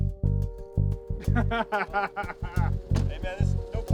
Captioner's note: laughing